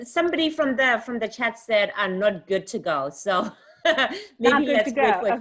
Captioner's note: laughs